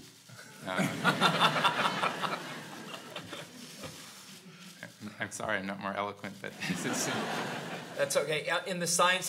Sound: laugh

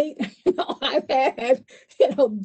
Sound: laughs

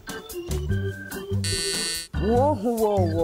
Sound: buzzer

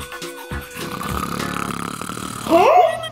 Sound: brushing sounds; loud snoring

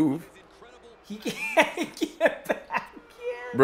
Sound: laugh

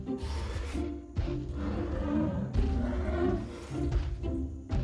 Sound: dinosaur roaring

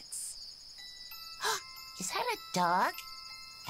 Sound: gasping

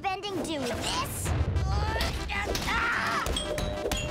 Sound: grunting

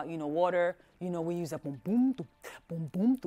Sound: voicing drum sounds

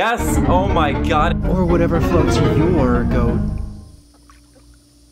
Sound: Narrator, in Daily Dose Voice

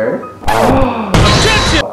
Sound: gasp

